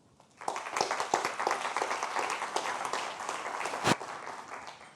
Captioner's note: audience applauding